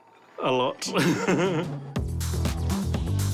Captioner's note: laughs